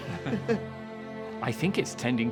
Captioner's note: both laughing